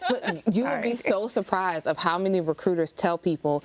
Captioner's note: all laughing